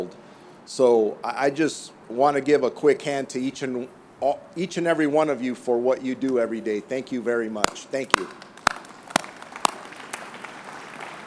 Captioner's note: applause